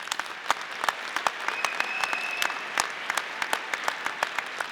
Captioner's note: audience applauding